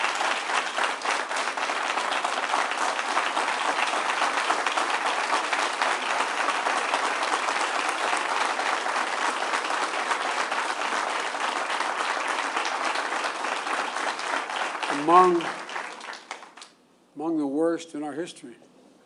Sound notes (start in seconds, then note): 6.5 applause